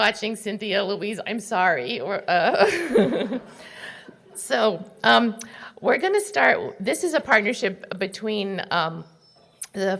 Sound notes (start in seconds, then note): 1.9 laughing